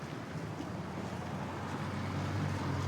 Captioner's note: vehicles driving